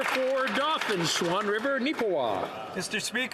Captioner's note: some Applause